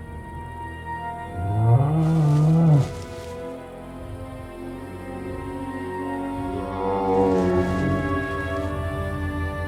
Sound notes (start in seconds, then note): 1.4 dinosaur bellowing